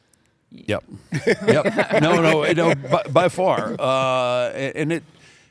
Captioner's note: laugh